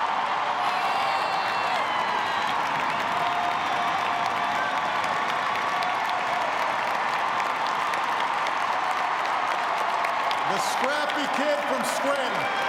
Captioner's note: cheers and applause